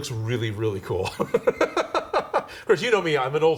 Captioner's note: man laughing